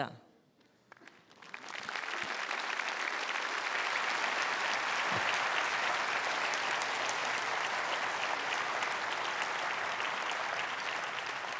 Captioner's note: applause